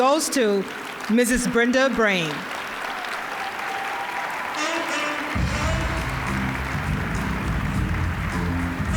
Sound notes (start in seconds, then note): 3.0 applause; 5.3 smooth jazz music